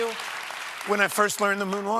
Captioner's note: cheers and applause